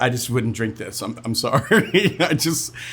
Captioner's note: laughs